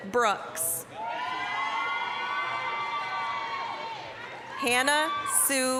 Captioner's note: applause, cheering